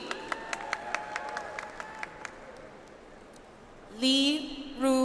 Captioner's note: audience applauds